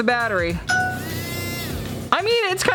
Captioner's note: motor whirring